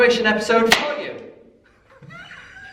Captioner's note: party popper